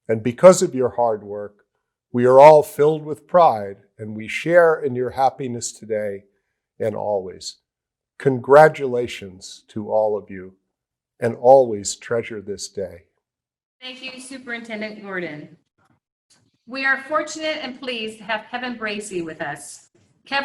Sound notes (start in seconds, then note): none